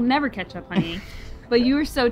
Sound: laughs

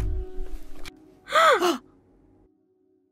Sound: both gasp

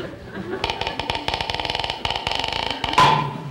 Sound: ladder creaking; slow whack

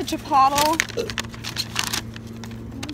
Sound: burps

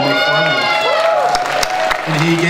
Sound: audience cheering

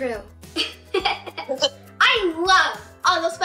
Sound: laughter

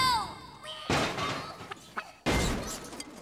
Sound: metal creaking

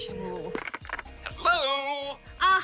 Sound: cheerfully

